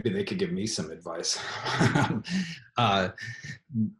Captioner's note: laughs